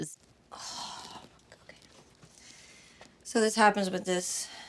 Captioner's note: sighs